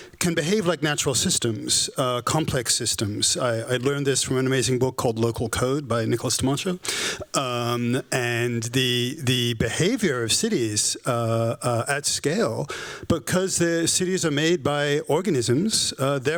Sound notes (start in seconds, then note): none